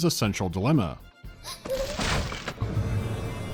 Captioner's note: frightened whimper